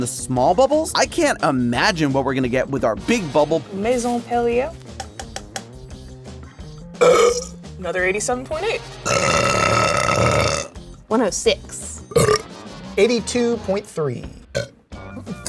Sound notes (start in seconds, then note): 9.0 burps